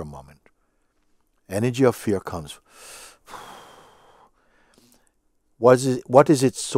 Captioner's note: deep exhale